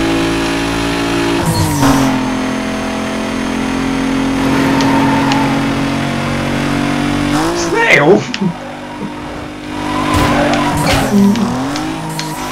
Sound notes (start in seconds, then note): 4.0 engine roaring